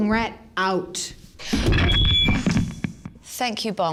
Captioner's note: microphone feedback